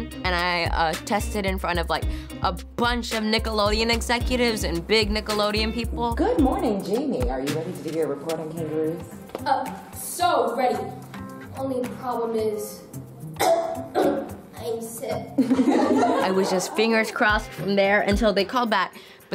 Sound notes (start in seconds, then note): 13.3 coughing; 15.4 people laughing